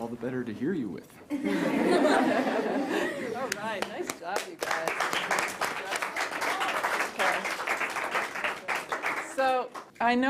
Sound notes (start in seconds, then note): 1.3 laughter